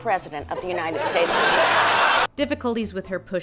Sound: laughter

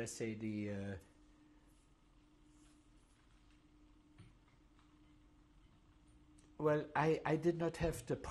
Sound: pauses for 6 seconds

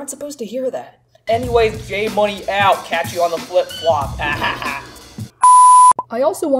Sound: douchey laugh

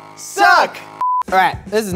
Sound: beep

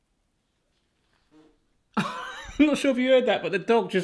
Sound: dog farts

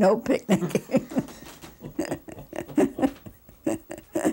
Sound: laughing

